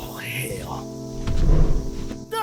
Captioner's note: whoosh